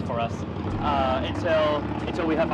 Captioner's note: engine rumbles